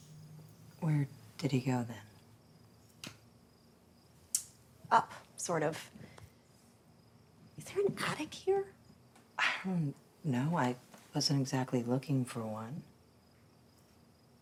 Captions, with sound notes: - Where did he go then? - Up, sort of. Is there an attic here? - (sighs) No, I wasn't exactly looking for one.